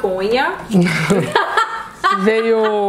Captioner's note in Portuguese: risos